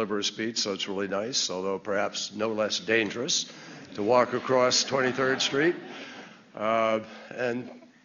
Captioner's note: laughter